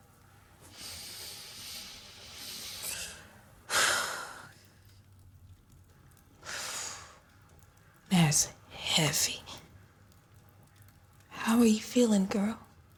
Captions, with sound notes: [breathing in and out heavily] That's heavy. How are you feeling, girl?